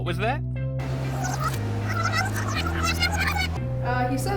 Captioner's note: tape rewinding